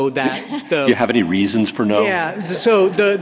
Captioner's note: laughter